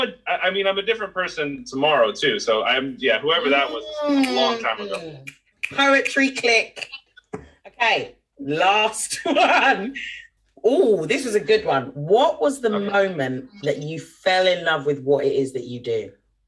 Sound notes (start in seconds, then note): 5.6 snapping fingers; 11.2 laughs